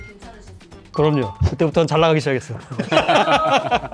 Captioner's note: laughs